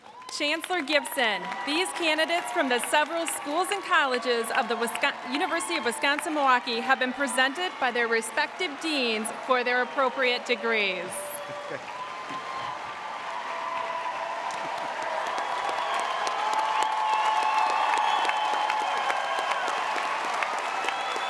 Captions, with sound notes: Chancellor Gibson, these candidates from the several schools and colleges of the University of Wisconsin-Milwaukee have been presented by their respective deans for their appropriate degrees. (audience cheering)